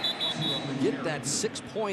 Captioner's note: whistle blows